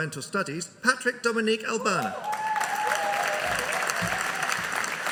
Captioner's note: audience cheering